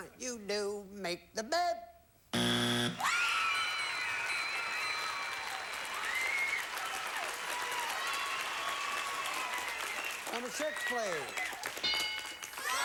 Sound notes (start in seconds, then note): 4.7 audience applauding